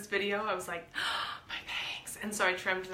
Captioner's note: gasps